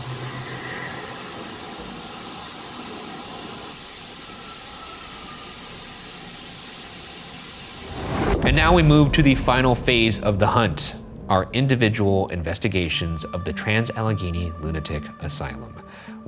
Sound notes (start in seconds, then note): 0.0 unknown faint breathing; 4.6 ghostly whistle